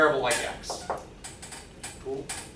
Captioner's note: fingers tapping